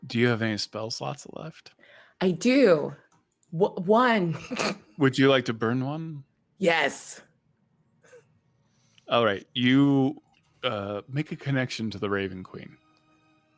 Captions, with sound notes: Do you have any spell slots left? - I do. One. (snorts) - Would you like to burn one? - Yes. - All right, you make a connection to the Raven Queen.